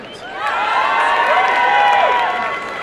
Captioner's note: cheering